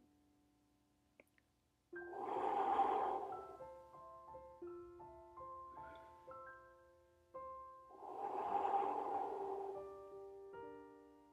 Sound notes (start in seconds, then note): 1.7 tinkling piano music; 3.9 breath whooshing; 7.9 breath whooshing